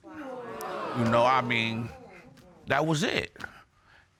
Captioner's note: audience exclaiming